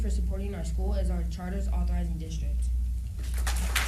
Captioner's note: applause